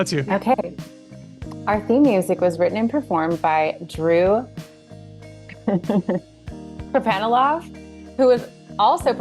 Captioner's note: laughs